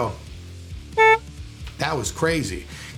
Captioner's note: beep